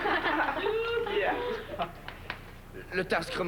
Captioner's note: Rires